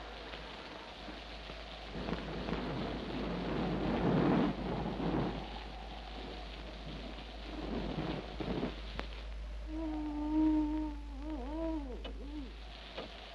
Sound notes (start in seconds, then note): 9.3 Madeline moans